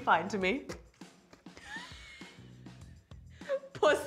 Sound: laughs

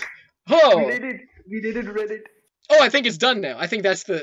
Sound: sighs in accomplishment

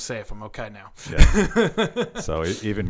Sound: laughing

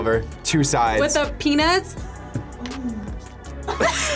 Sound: moans; both laugh

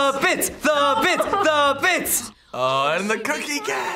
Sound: laughs

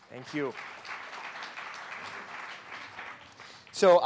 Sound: clapping

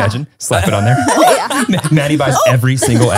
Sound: everyone laughs

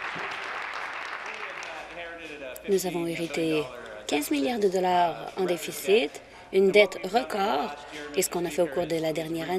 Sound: applause

